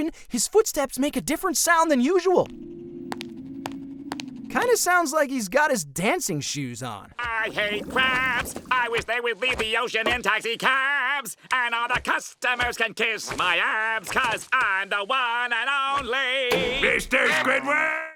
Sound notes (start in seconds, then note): 2.1 footsteps